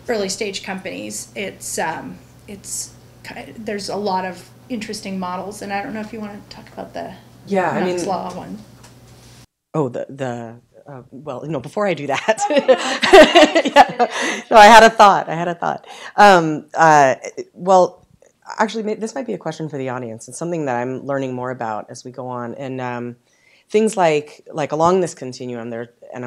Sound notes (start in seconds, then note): 12.2 laughter